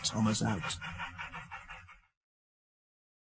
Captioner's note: chuffing Sounds